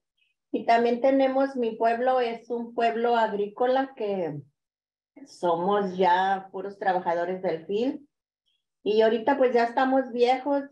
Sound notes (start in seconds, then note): 1.1 continues speaking in Spanish